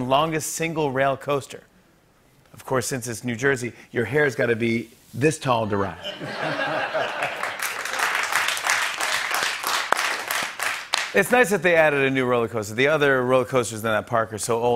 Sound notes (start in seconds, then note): 6.0 laughter; 7.0 applause